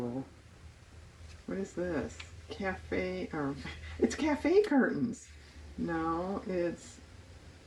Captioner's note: laughs